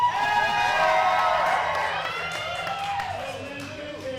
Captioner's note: crowd cheering